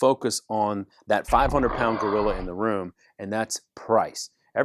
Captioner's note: animal scream